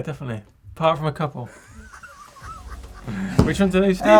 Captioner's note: laughter